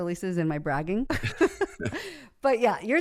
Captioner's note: both laugh